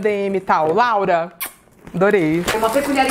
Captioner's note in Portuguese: beijo